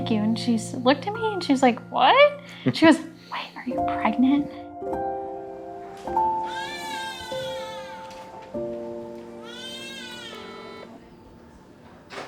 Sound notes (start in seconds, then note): 5.9 gentle music; 6.3 baby crying